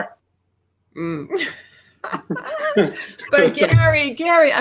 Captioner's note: chuckles